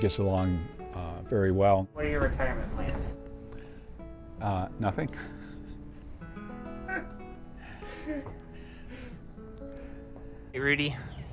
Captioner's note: laughing